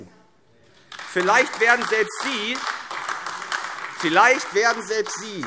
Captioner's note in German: Beifall AfD